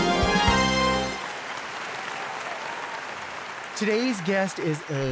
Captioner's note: audience applauds